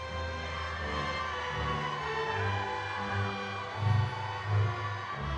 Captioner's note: audience cheering